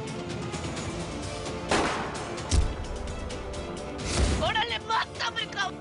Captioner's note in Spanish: Disparo